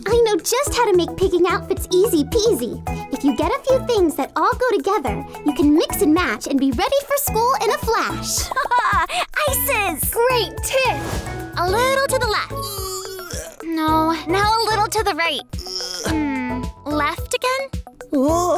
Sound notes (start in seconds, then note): 8.4 laughing; 12.5 groaning; 15.6 groaning